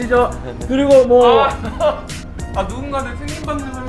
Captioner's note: haha